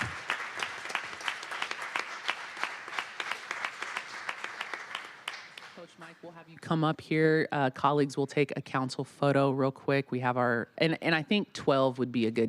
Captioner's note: applause